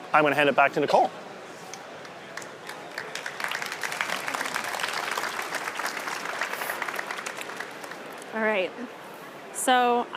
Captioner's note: applause